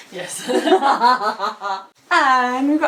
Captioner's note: laughing